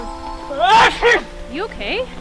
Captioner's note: sneezing